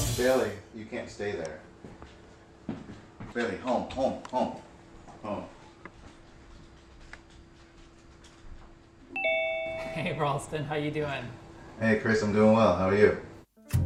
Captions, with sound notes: - Bailey, you can't stay there. Bailey, home, home, home. Home. [doorbell rings] - Hey, Rawlston. How you doing? - Hey Chris, I'm doing well how are you?